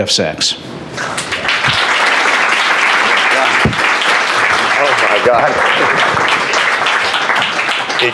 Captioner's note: applause